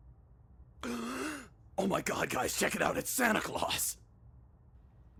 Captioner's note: gasp